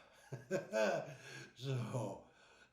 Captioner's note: chuckling